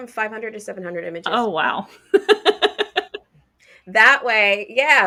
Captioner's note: laughs